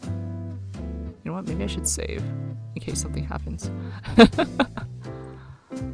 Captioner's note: laughs